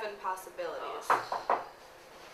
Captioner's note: knock on door